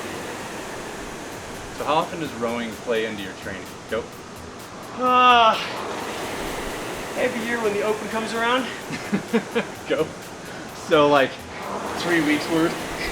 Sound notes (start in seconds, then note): 8.6 laughs